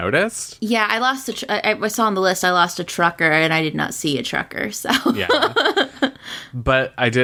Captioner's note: laughs